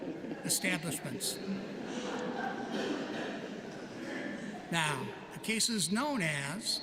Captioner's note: laughter